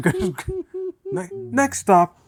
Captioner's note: laughter